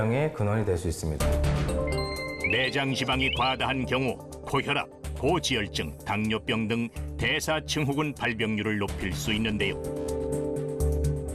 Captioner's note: voiceover